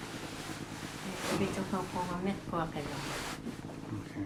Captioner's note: speaking Inuit